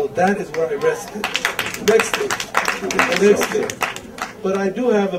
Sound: audience applause

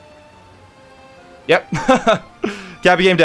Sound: laughs

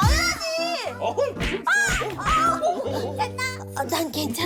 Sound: slap! Slap!

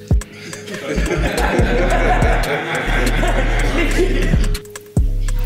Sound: everyone laughing

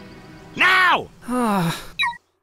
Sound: sigh

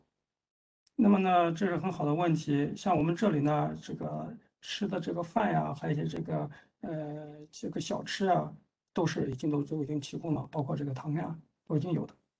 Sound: speaks in Mandarin

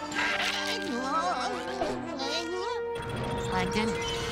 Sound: stammering

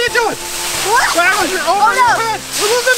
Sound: screaming; assistant squeals

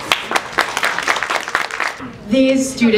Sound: applause

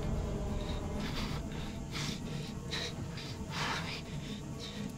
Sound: breathes heavily

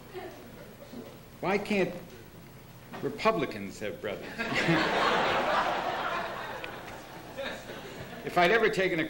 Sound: laughter

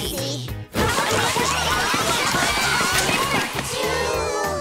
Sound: yelling

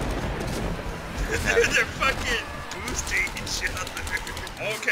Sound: laughs

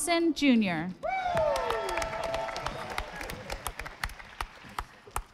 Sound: audience applauding

